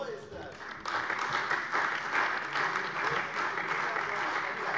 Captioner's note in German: Beifall bei der CDU und dem BÜNDNIS 90/DIE GRÜNEN